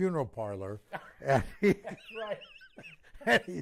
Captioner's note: laughter